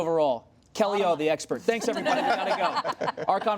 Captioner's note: laughter